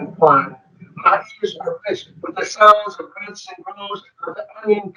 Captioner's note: speaking distorted